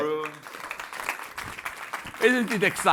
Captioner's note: applause